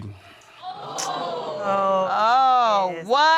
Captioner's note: audience exclaiming; tsks